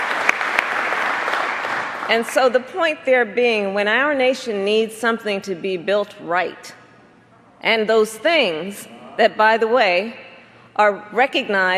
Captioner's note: applause